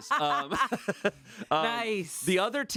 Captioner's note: laughing